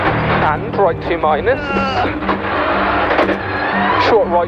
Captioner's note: groans